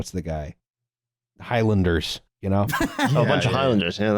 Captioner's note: laughs